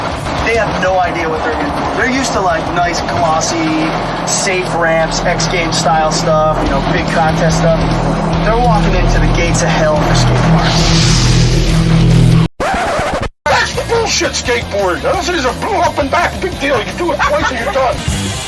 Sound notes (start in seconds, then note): 10.9 creepy ambiance building; 12.6 record scratch